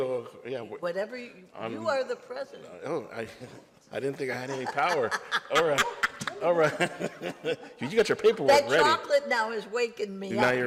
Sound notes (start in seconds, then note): 4.3 laughs